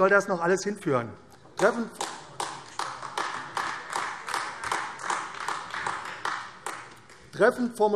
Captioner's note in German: Beifall AfD